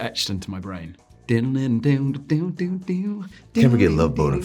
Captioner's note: Jonathan vocalizing wordlessly